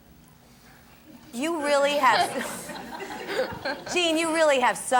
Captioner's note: laughing